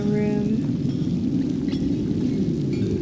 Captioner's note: howling wind